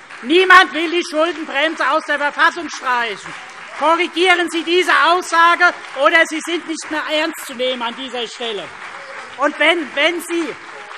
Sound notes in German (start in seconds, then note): 3.1 Beifall CDU und BÜNDNIS 90/DIE GRÜNEN - Zurufe